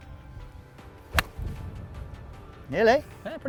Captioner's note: golf club hitting ball